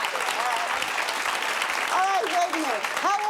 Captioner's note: audience applauding